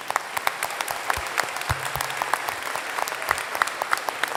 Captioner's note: applause